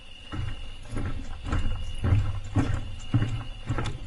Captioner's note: crickets chirping